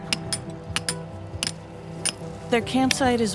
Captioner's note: hammers clanking